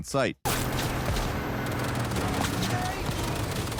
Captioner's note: gunshots firing